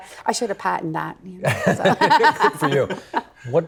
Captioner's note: laughing